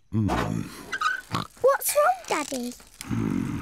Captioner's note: oinks